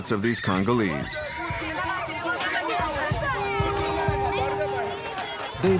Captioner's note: foreign language